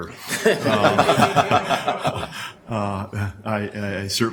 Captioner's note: everyone laughs